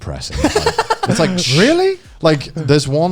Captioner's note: laughing